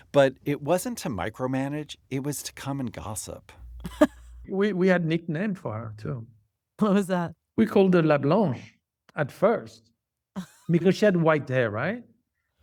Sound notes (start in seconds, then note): 3.8 laughter